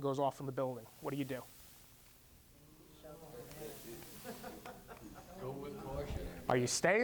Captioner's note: students chattering